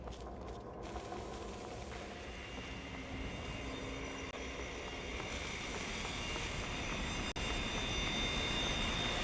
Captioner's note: industrial grinding, metal shearing, electricity buzzing